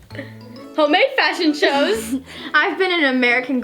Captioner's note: laughs